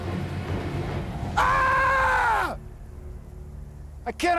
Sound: screams

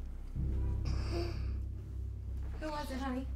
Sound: girl gasps

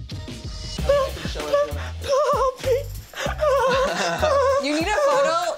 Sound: laughing

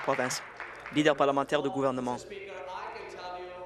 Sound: applause

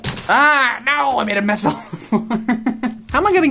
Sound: laughs

